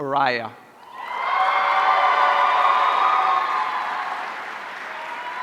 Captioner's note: audience cheering